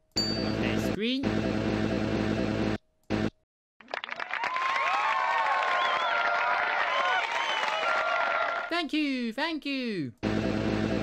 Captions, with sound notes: There's green [APPLAUSE] Thank you.